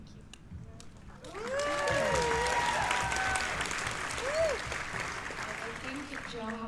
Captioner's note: cheers and applause